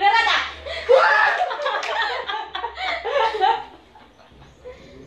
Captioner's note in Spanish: Grito; Risas